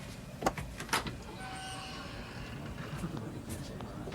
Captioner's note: door clicking